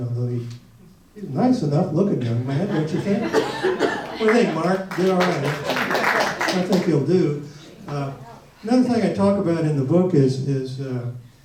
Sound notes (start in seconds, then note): 5.8 audience applauds